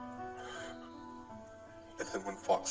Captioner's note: light weeping